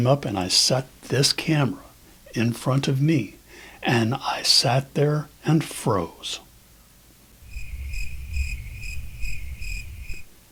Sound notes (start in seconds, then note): 7.4 crickets chirping